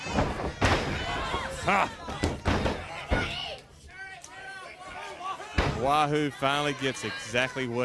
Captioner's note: crowd chatter